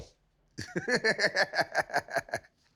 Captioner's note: laughs